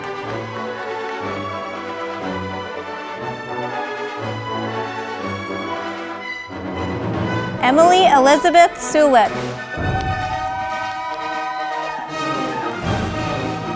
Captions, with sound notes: Emily Elizabeth Sulik, (audience applauding)